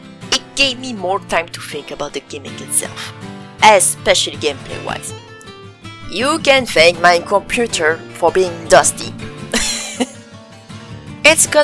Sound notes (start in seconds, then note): 9.5 laughs